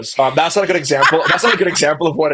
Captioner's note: laughing